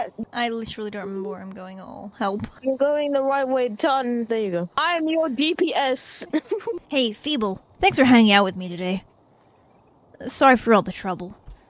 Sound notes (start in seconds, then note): 6.2 laughs